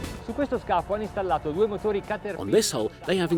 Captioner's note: speaking in foreign language